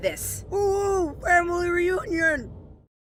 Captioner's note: mouth full